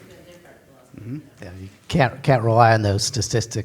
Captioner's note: pat